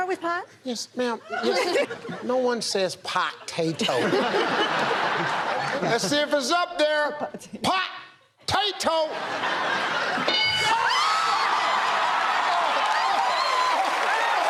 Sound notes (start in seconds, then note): 3.4 laughter; 10.5 cheers and applause